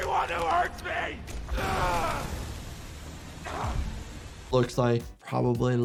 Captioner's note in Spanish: Doey gruñe